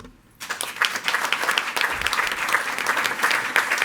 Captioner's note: all applauding